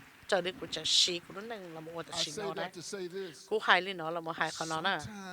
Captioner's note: applause